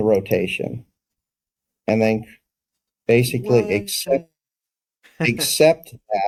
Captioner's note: laugh